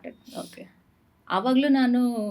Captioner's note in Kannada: ಬುಸುಗುಟ್ಟುವಿಕೆ